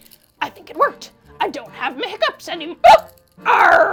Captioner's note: hiccups